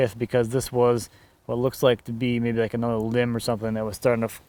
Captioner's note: none